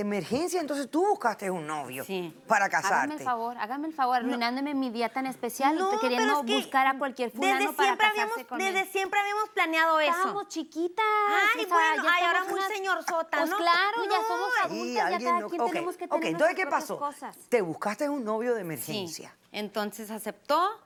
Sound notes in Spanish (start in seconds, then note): 11.4 Hablan al unísono